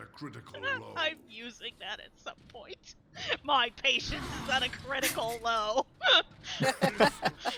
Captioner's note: laughs; laugh